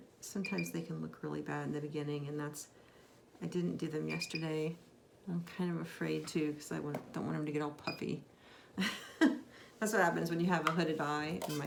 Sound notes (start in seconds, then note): 9.1 laughs